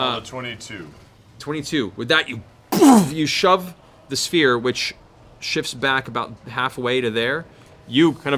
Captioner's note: boof